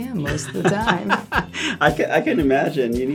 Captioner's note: laugh